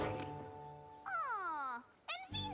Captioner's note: thunk